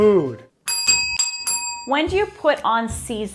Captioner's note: bells dinging